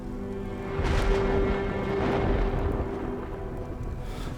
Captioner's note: thunder cracking